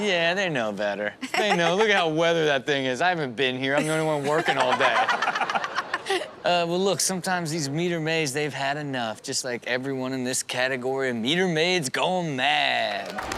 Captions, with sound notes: - Do they? - Yeah, they know better. (laughs) They know, look at how weathered that thing is. I haven't been here, I'm the only one working all day. (audience laugh) Well look, sometimes these meter maids they've had enough. Just like everyone in this category, Meter Maids Gone Mad!